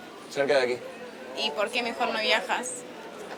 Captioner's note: distant Chatting